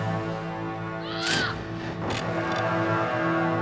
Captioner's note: scythe clatters